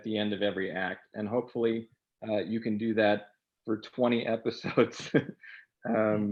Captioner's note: laughing